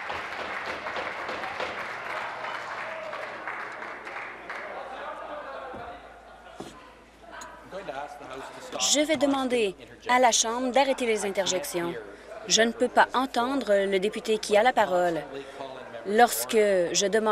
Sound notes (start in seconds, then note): 0.0 applause; 0.1 laughter